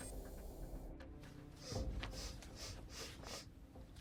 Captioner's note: sniffs